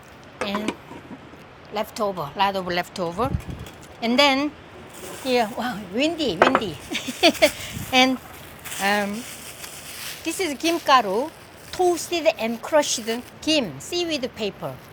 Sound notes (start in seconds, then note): 6.8 laughs